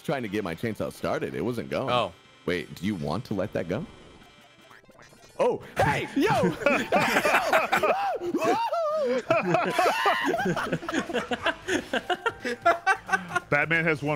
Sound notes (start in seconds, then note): 5.5 laughs; 7.9 screaming